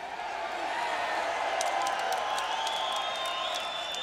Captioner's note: audience cheering